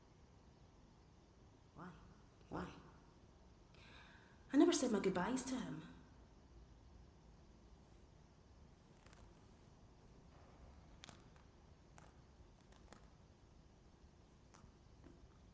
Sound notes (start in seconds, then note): 8.7 static sparsely crackles